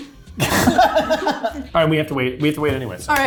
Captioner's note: laughing